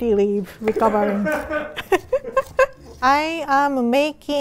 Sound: laughs

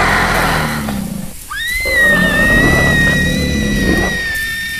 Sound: roaring; screaming

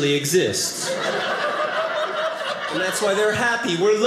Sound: audience laughing

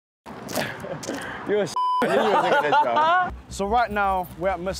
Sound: laughter

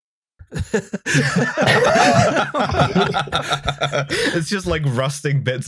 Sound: laughter

